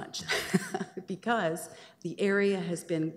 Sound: chuckles

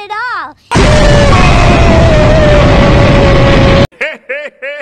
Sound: explosion

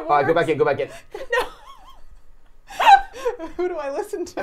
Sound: laughing

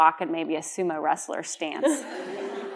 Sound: laughter

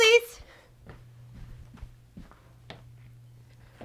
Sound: footsteps

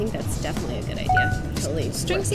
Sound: bell dings

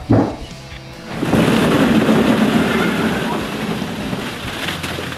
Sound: balls crashing

